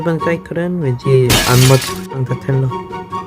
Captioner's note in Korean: 쨍그랑